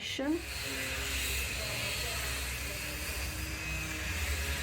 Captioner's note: sawing noise